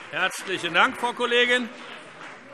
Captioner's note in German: Beifall BÜNDNIS 90/DIE GRÜNEN